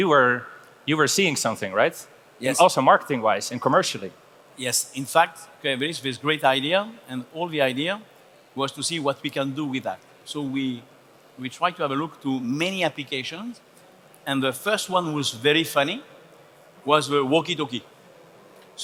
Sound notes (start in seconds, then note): none